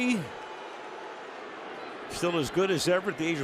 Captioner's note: booing